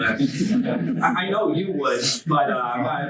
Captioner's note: students laugh